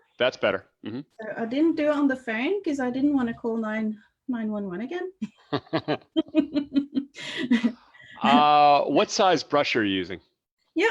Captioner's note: chuckles; laughs